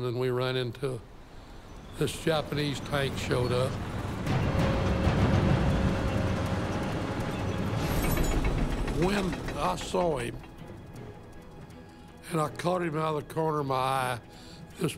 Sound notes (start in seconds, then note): 4.2 dramatic ominous instrumental music; 7.4 turret clanging while rotating